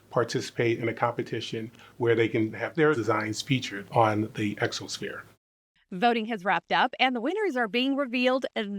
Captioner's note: none